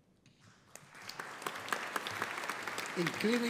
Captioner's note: audience applauding